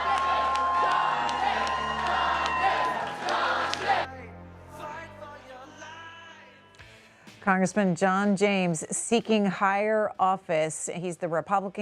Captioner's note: cheers and applause